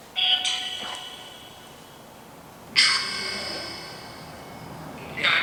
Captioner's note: robot-like sound